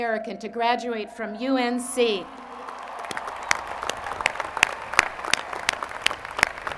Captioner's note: applause